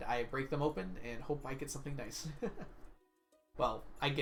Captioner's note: laughs